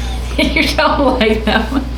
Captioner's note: laughs